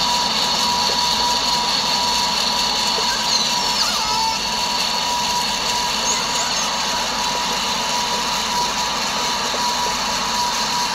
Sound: engine noise, no more orca calls

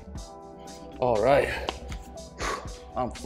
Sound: exhales loudly

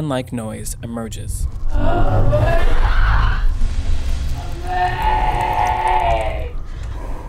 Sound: distorted human noises—“help me!”

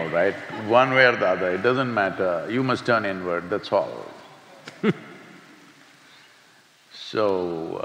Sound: laughs

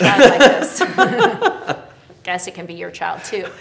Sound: both laughing

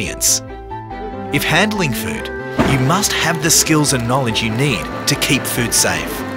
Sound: gas burner sound

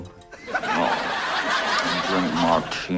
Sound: laugh track

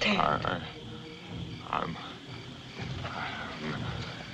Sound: murmuring

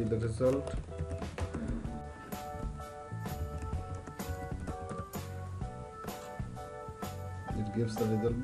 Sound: typing

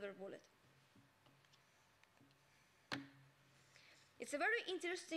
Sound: silence

